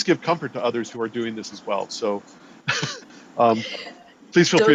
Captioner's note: chuckles